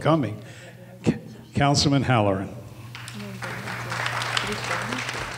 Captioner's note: applause